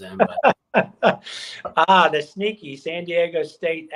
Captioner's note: laughter